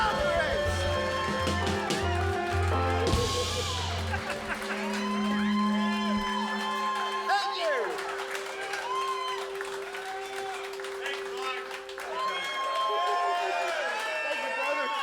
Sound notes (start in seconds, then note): 0.0 audience cheers and applauds; 4.8 laughs; 9.6 audience cheers and applauds